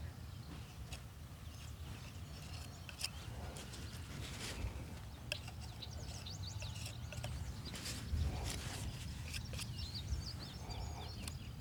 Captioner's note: birds chirping